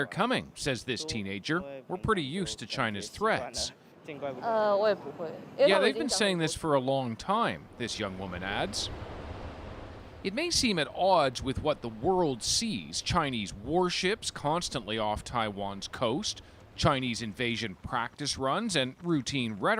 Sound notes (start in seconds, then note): 3.4 speaking alternate language; 15.3 speaking Alternate Language